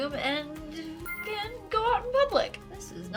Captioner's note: sparkles chime